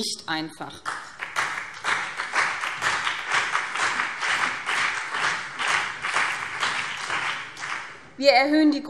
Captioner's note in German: Beifall BÜNDNIS 90/DIE GRÜNEN und CDU